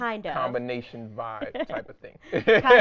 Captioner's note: laughing